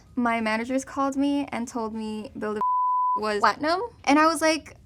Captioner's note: beep